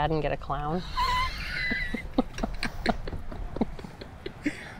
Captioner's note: laughs